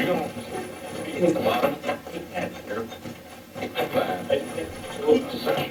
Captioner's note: static playback transmitting